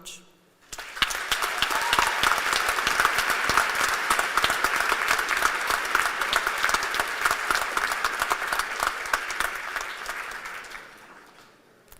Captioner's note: cheers and applause